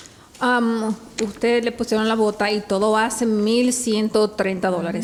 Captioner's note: speaking Spanish